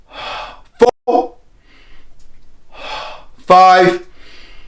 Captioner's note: inhaling and exhaling